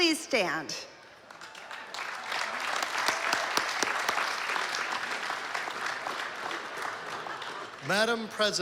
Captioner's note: applause